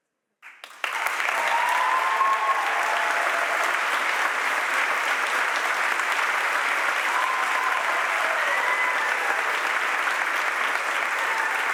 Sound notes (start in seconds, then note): 0.6 audience applauds and cheers